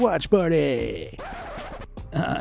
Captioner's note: record scratches